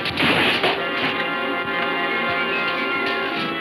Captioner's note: wood crashing; ominous music